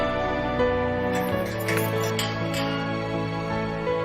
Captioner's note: gate clanking